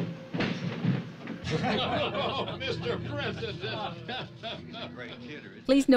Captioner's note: laughing